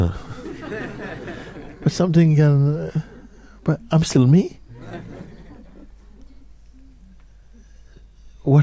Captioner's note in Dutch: gelach